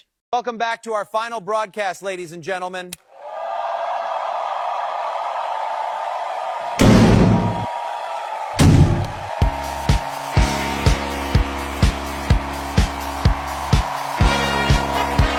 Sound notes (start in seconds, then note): 2.9 crowd cheers; 2.9 microphone pops; 6.7 bin clangs; 8.5 lid thuds